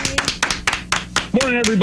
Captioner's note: clapping